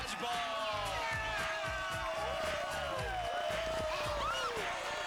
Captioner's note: cheers and applause